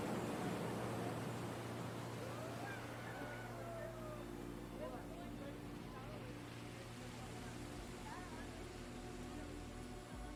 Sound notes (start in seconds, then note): 2.2 cheering; 2.4 chatter